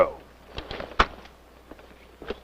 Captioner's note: thud; footsteps